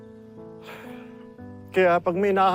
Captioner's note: exhales sharply